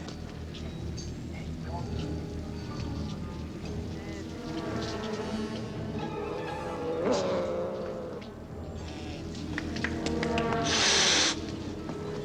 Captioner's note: screaming